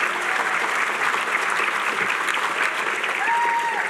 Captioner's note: cheering